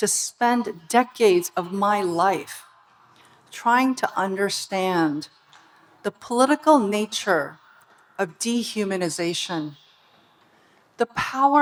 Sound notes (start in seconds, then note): none